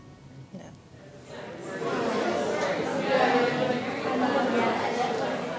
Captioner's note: chattering